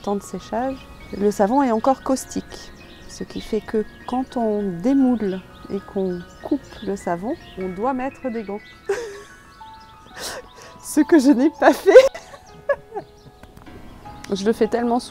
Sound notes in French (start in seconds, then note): 13.0 rires